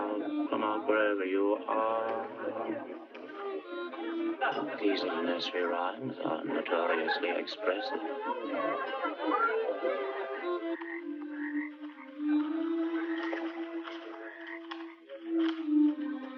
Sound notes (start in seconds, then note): 10.9 frogs croaking